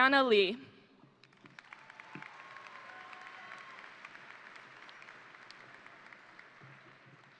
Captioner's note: crowd applauding; crowd cheering